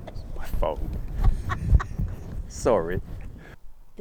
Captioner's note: laughing